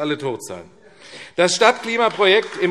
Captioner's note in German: Beifall AfD